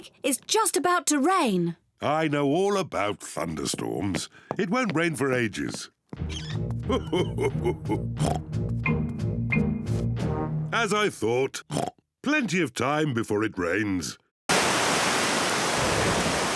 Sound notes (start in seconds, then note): 6.8 laughs; 8.2 oinks; 11.6 oinks